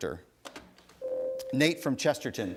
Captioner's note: ding